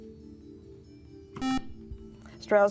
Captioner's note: beeping